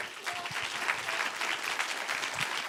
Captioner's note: applause